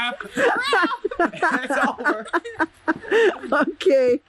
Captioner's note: laughter